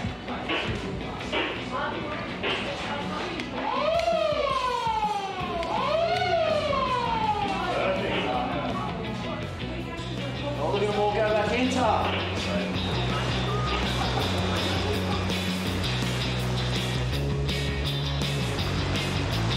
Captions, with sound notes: (siren) - Perfect, oh look at them all go back in, Tac!